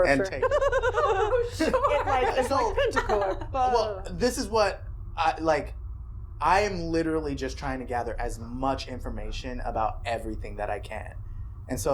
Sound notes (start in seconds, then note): 2.7 giggling